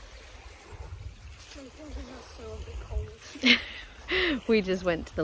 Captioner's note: laughs